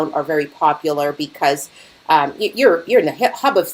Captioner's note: none